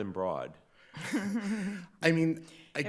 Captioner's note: everybody laughing